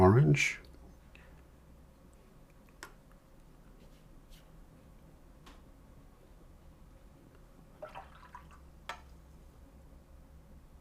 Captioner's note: silence